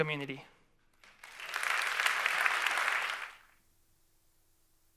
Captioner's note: audience applauds